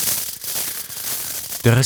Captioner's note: rustling